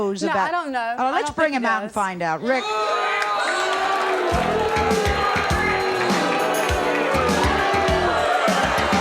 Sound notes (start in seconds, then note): 2.5 audience booing; 4.3 dramatic music